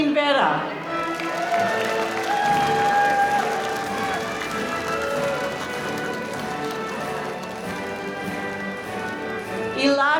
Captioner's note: applause